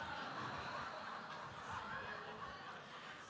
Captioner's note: audience laughter